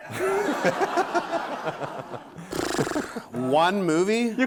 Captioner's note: audience laughing